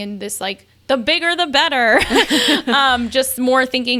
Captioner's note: laughs